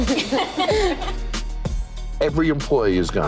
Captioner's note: customers laughing awkwardly